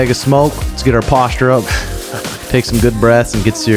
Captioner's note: chuckles